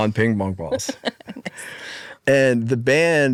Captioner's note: laughs